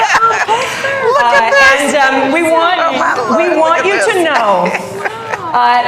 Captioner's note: laughter